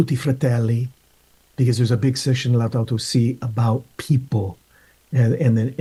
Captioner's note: speaking in Spanish